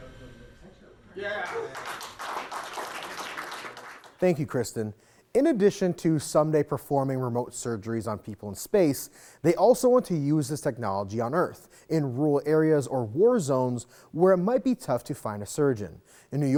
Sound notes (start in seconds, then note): 1.2 team applauds